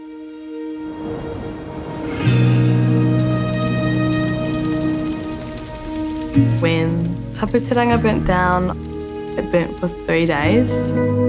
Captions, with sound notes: (somber music) (fire crackling) When Tapu Te Ranga burnt down, it burnt for three days.